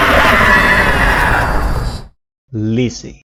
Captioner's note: massive fucking roar